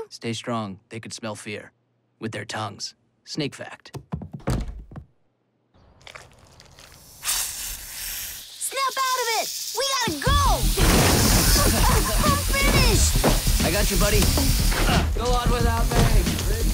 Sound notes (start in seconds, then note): 7.0 hiss